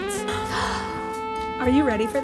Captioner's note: gasps